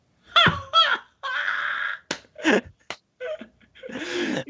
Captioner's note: all laughing